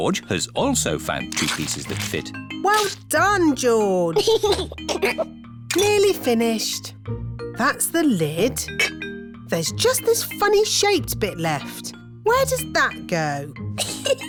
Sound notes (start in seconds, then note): 4.1 giggles